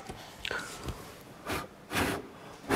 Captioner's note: blowing